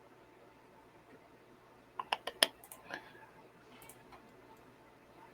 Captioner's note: Roll20 clicking